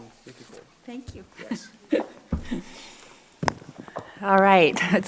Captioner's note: laughs